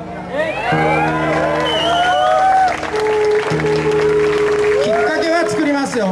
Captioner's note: audience applause